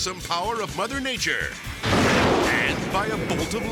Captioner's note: thunder crashes